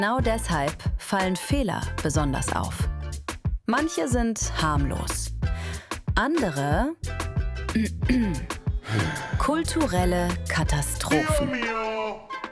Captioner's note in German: räuspern